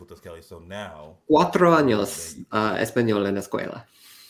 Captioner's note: speaking spanish; speaking spanish